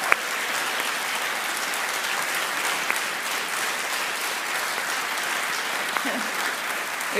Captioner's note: cheering and applause